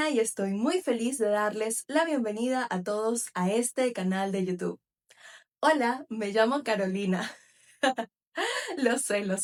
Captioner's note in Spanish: risas